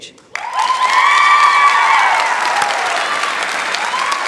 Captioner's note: cheering, applause